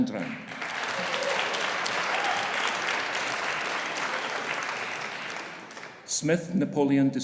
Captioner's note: audience applauding; audience cheering